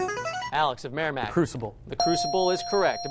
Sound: ding

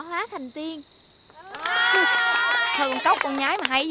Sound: applause

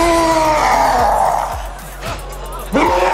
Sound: roaring

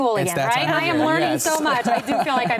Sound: laughs

